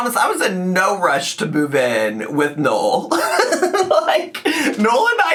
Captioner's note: laughs